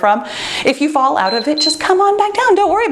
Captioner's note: timer beeps